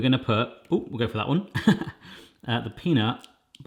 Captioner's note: laughs